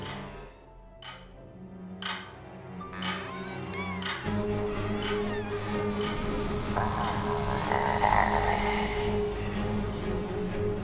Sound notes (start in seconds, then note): 3.3 door creaking; 3.3 intense music; 6.7 mummy growling